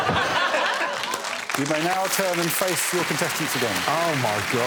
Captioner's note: all laughing